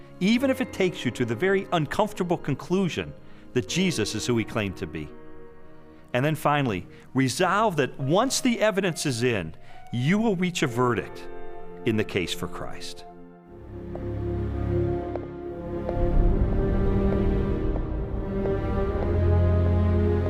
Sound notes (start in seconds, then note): 13.6 footsteps tapping; 14.1 gentle pensive music